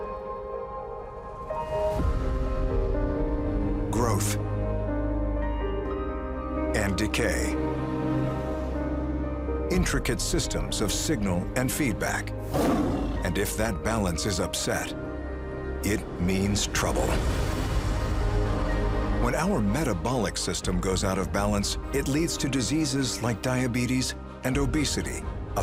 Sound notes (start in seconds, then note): 0.1 dramatic music continues; 12.5 lion roars; 17.5 dramatic music continues